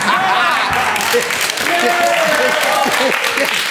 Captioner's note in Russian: Смех и аплодисменты